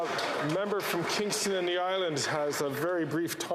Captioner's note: some Applause